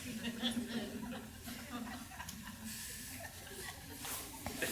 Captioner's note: crowd laughs